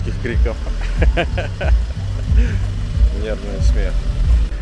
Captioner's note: nervous laugh